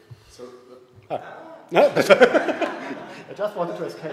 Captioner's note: laughter